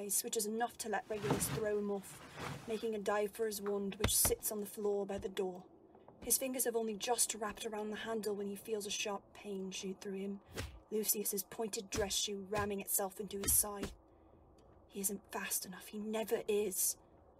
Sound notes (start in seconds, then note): 10.5 repeated kicking